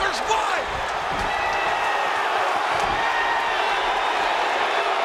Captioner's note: audience cheering